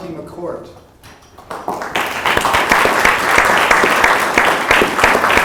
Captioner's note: applause